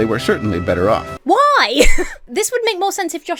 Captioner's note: Emma laughs